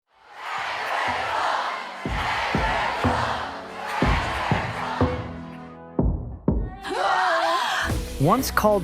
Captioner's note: chanting